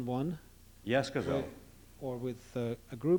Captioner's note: non-english speech